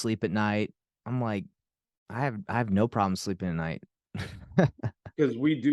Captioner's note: chuckles